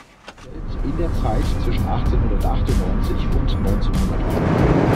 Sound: podcast voice

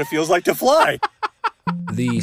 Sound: both laughing

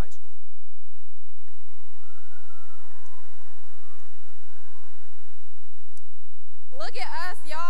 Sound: cheering and applause

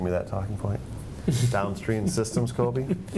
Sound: laughter

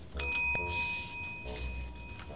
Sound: bell sound

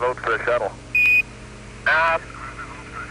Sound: beeping

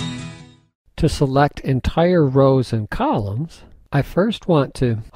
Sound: voiceover

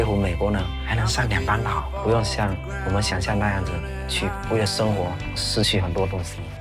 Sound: speaking foreign language

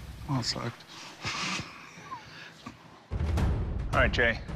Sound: chuckles

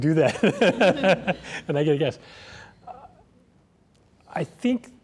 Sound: laughs

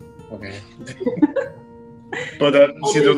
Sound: laughs

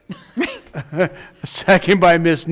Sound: board laughs

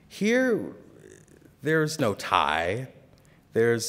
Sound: none

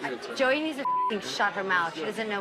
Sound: beep

